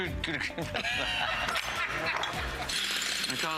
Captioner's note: rires